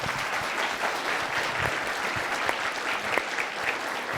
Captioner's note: everyone applauding